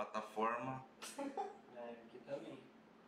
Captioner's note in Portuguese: risos